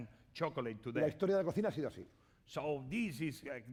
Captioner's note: speaking spanish